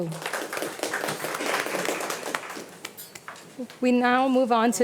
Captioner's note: audience applauding